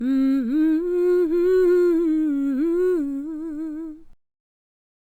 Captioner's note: intro humming